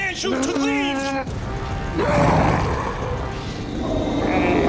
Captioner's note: growling